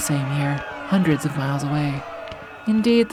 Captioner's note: guns popping faintly